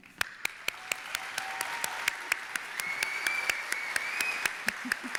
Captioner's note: audience applauding and cheering